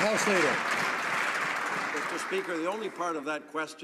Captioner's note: some Applause